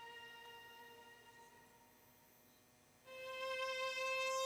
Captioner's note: insects chirping; gentle music